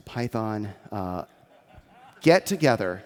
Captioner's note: audience chuckles